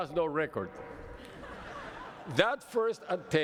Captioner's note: laughter